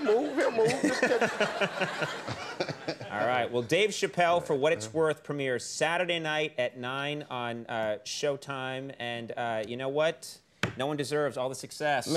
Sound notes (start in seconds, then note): 1.7 laughing